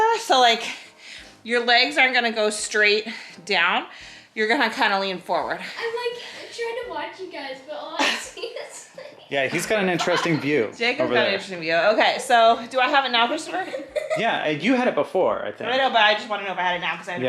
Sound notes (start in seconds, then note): 8.0 laughs